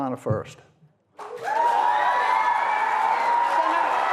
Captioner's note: applause